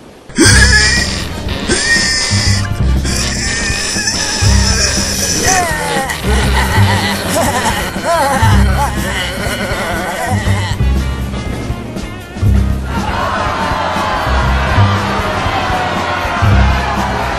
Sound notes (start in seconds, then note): 0.5 grunting; 5.1 all Laughing Rudely; 12.8 crowd Jeering and Booing